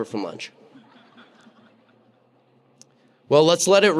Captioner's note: audience laughing